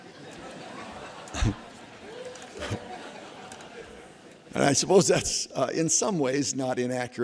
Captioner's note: laughter